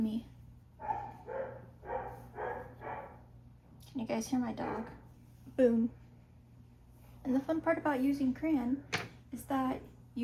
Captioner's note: very, very loud barking